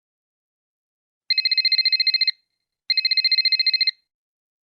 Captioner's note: cell phone rings